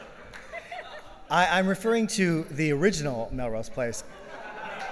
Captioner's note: laughing